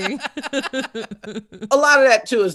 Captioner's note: laughing